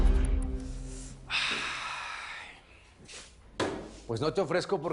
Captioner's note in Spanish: Suspiros